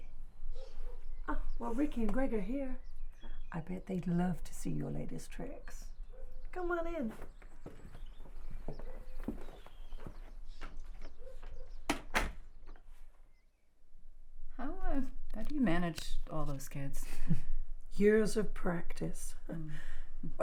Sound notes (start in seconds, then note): 11.8 door shutting; 17.3 chuckles